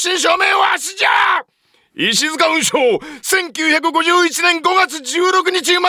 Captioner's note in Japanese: 叫び声